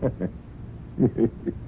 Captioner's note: chuckles